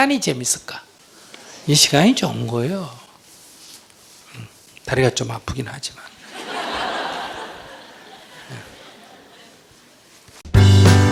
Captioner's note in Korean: 청중 웃음